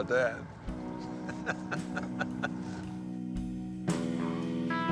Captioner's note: laughing